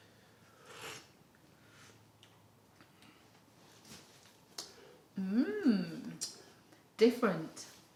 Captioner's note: sips tea